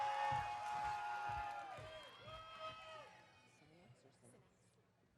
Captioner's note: audience cheering